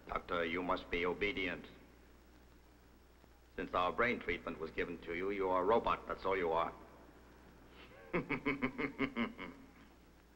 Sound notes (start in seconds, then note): 7.8 laughs